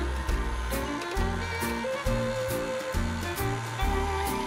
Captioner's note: none